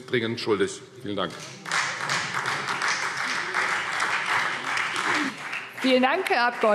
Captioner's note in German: Beifall Freie Demokraten, vereinzelt BÜNDNIS 90/DIE GRÜNEN und SPD